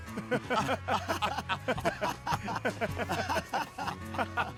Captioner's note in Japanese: 笑い